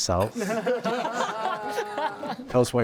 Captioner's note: everyone laughing